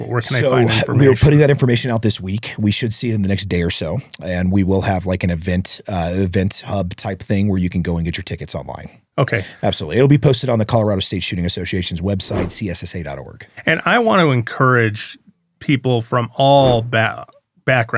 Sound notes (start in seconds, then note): 12.2 whoosh; 16.6 whoosh